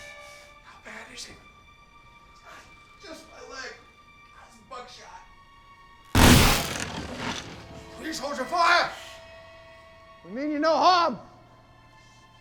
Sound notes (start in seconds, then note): 0.2 whispering; 6.1 shotgun blast